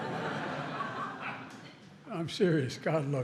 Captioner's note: laughter